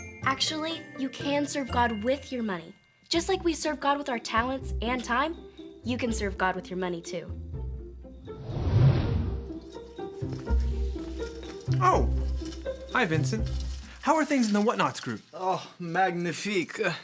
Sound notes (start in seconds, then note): 8.3 whooshing; 8.5 upbeat music